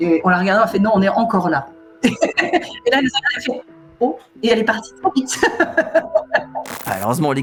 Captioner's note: laughs